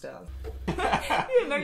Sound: laughing

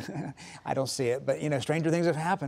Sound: laughs

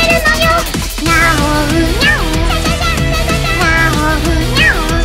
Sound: cute cat voice

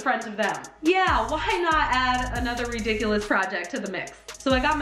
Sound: exasperated, sarcastic

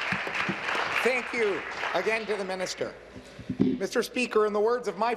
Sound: applause

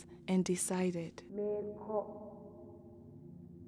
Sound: in Twi

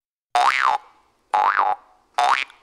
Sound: sproing!; sproing! sproing! sproing!; sproing!

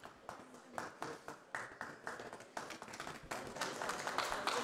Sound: audience applause

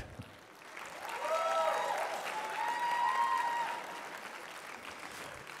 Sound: applause

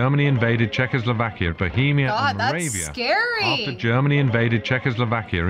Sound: voice-over; voice-over

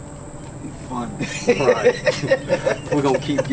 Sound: men laughing

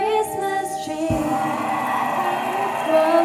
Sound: adds in more applause

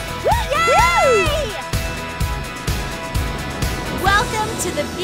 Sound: all cheer

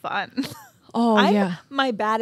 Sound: chuckles

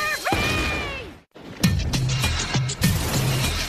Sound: yelling

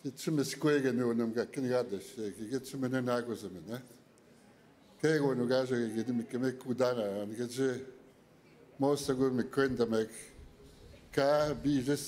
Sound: speaking Indigenous Language

